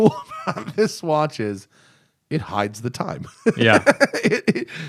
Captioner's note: laughter